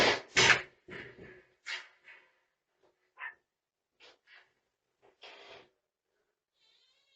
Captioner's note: and other dogs barking